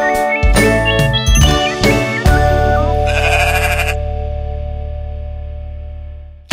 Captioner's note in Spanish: Música alegre; Sonido de oveja